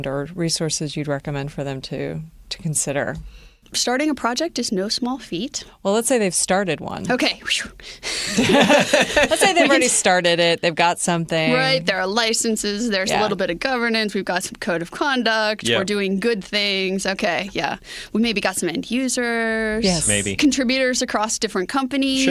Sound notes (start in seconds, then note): 8.1 laughter